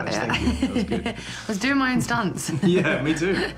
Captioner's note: laughing